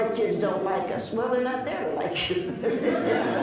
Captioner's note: laughs